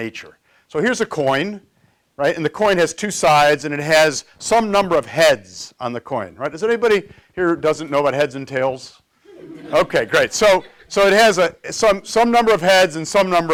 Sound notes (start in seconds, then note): 9.2 laughter